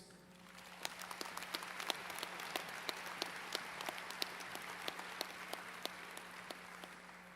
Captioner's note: applause